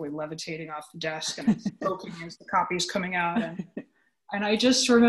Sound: audio warps

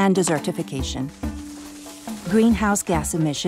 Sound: leaves rustling

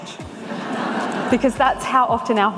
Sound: audience laughs

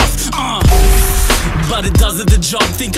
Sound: gun Shot

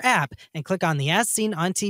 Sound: en espanol

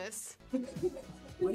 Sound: laughing

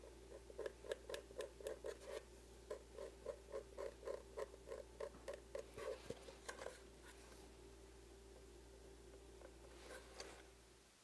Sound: scratching sound

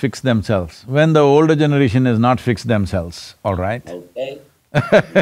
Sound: laughs

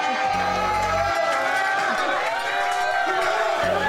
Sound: all cheering

